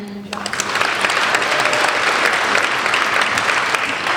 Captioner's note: applauding